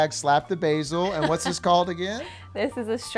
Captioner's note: laughing